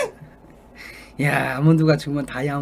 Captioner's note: breathing in